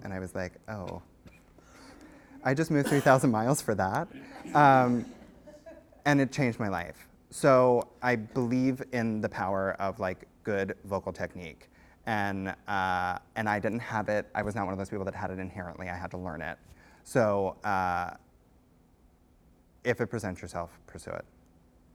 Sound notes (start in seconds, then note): 4.1 laughter